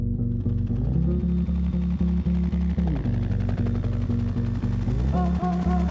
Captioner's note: chopper blades humming